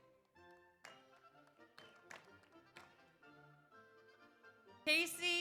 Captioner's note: audience applauds